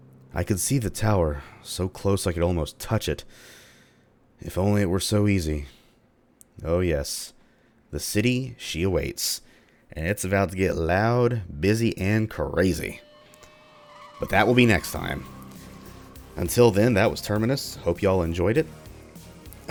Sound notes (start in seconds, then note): none